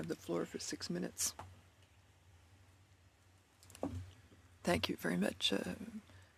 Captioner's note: speaking French